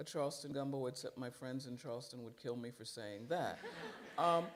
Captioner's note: laughter